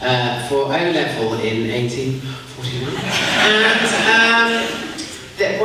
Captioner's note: quietly